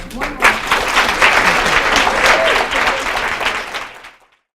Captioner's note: applause